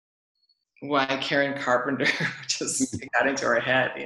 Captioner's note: laughs